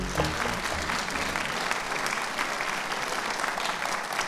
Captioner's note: audience applauds